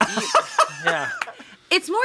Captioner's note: laughs